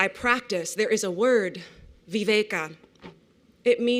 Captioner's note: non-english